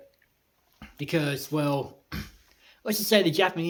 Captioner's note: clears throat